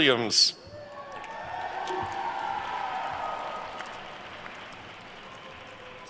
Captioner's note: attendees cheering and applauding